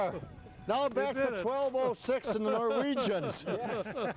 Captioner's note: everyone laughing